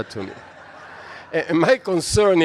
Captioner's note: audience laughs